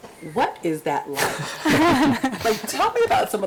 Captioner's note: group laughs